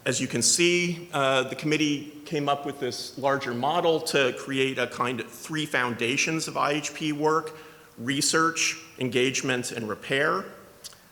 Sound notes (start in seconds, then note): none